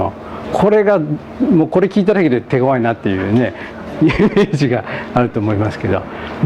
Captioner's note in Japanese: 笑い